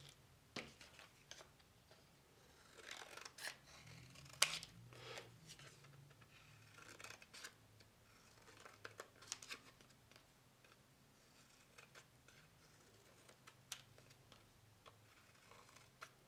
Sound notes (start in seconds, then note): 2.9 scissors snipping